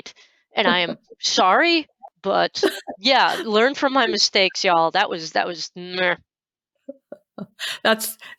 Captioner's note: disgusted sound